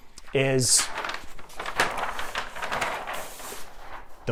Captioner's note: rustling